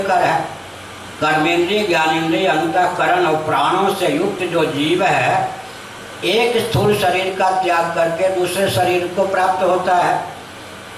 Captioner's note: breath